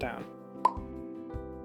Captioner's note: pop